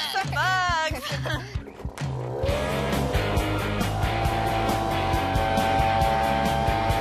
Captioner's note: roar of the engine